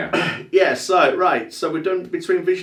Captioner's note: clearing throat